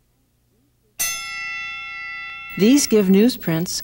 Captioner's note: bell rings